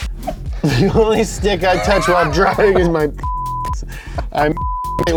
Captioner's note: beep